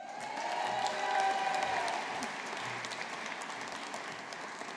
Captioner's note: audience applauding